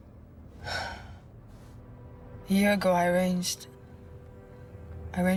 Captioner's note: sighing